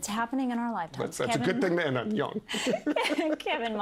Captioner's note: laughter